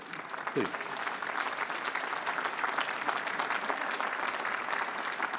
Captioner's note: applause